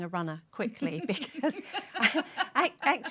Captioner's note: laughter